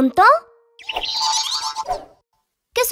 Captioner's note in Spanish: Sonido de pájaro